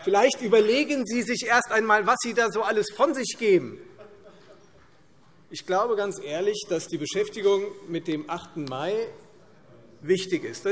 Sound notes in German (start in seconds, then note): 3.9 Lachen